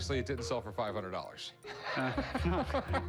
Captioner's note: laughs